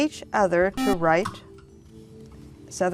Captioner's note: buzzer